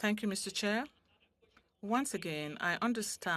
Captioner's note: speaking French